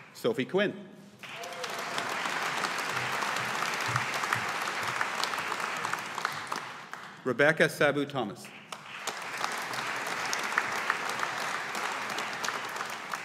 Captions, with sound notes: Sophie Quinn. (AUDIENCE APPLAUDING) Rebecca Sabu Thomas. (AUDIENCE APPLAUDING)